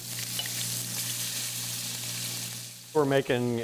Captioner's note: liquid sizzling